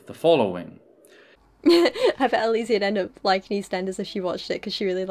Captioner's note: laughs